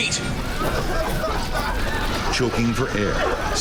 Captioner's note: passengers coughing